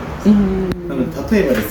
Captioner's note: japanese noises of approval